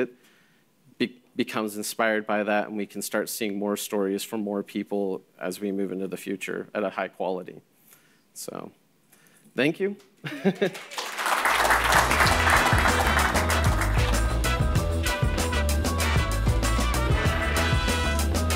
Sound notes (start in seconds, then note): 10.5 audience clapping; 13.4 upbeat music